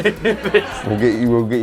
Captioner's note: laughter